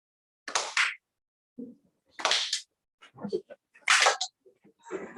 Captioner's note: clap; clap